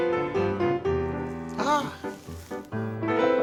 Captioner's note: exclaims